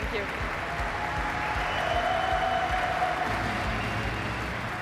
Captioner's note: audience applauding